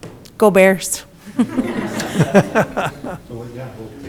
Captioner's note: everyone laughs